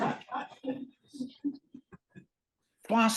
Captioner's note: laughter